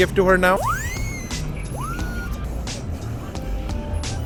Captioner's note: robot noises